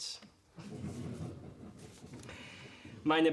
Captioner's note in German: verhaltenes Gelächter